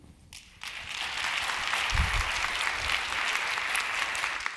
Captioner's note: applause